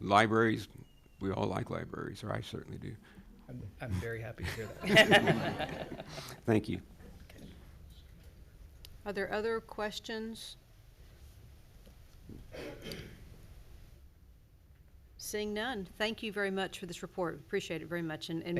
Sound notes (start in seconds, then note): 4.5 everyone laughs